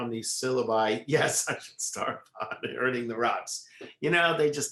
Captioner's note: laughs